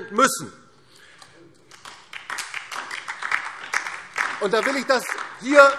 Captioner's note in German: Beifall